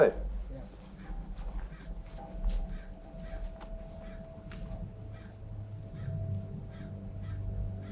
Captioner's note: ominous music; crow caws